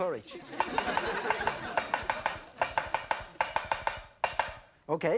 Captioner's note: knife chopping noise